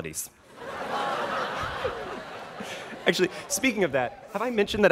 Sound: students laughing

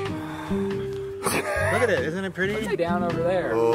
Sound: sighs

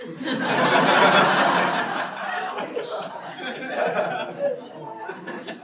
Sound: laughter

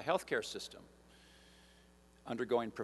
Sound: none

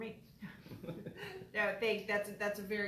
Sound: laughs

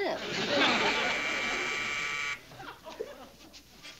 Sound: buzzing

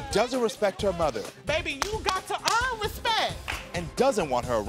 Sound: claps for emphasis

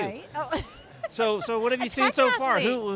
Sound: laughs

